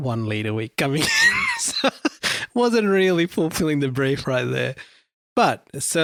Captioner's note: laughs